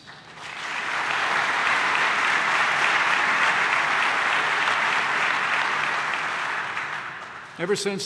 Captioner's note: applause